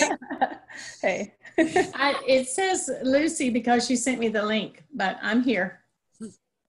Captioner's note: laughter